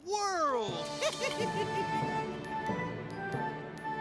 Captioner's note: chuckles